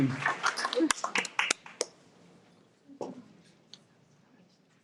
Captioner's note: audience applauds